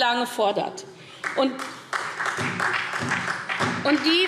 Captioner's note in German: Beifall SPD